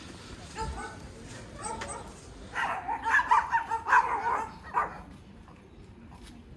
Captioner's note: dogs barking